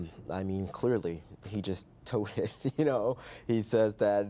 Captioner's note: chuckles